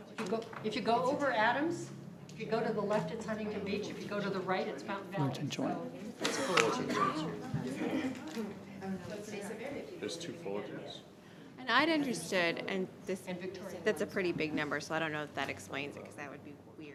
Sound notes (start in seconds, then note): 5.9 people chattering